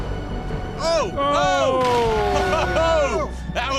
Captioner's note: hollers of surprise